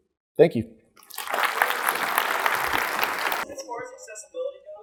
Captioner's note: audience applauding